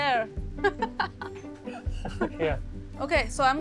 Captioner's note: laughing